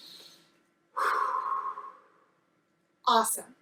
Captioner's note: inhales; exhales